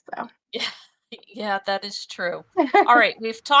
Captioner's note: chuckles